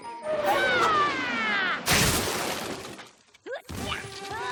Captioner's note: crash!